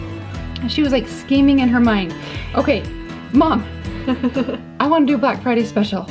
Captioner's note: laughs